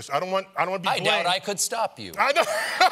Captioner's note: laughter